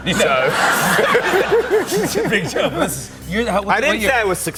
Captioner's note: laughter